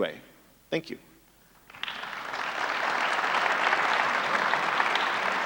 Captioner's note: audience applauding